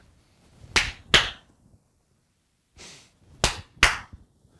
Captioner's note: clapping